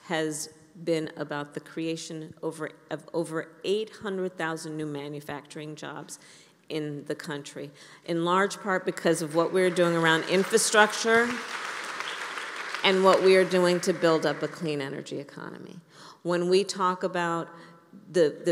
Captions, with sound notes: has been about the creation over -- of over 800,000 new manufacturing jobs in the country, in large part because of what we're doing around infrastructure -- (applause) -- and what we are doing to build up a clean energy economy. When we talk about the --